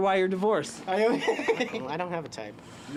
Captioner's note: laughs